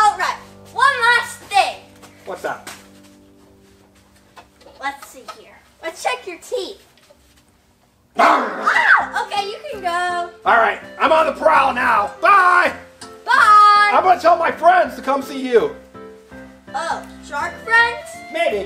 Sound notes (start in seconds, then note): 8.0 shark growls; 8.2 assistant screams